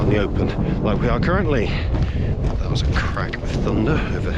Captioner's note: thunder overhead